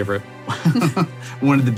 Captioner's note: laughing